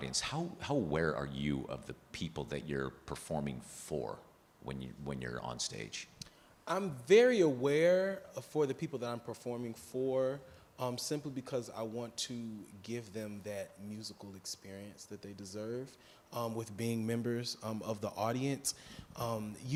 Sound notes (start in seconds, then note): none